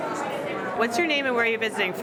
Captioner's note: background chatter